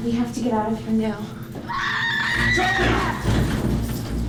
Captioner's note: Charlie screaming